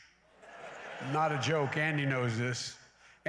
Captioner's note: laughter